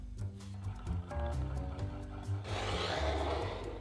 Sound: whisking

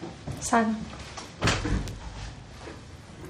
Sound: door opening

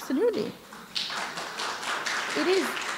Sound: applause

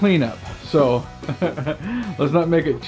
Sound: chuckles

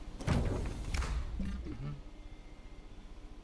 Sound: footsteps; grunting

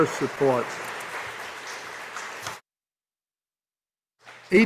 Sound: audience applauding

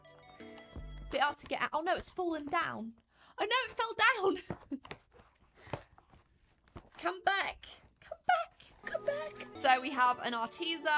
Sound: laughs

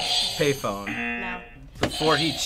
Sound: audio buzzes

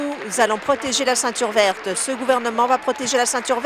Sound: applause

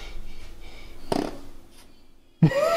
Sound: fart Sound

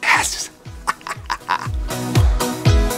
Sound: laugh

